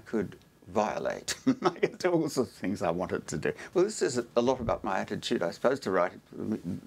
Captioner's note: laugh